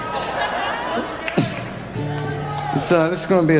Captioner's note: laughs